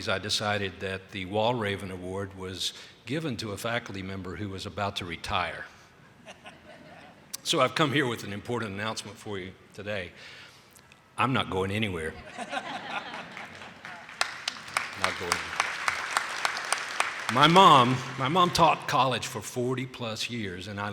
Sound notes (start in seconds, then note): 12.2 attendees laughing; 16.6 attendees clapping